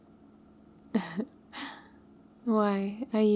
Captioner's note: laughs